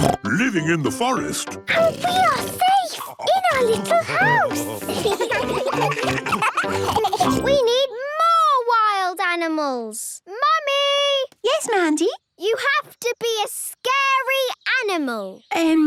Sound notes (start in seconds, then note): 1.6 snorts; 3.5 children giggling